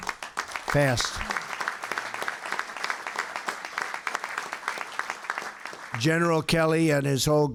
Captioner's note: applause